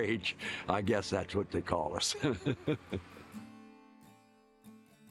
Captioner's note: laughs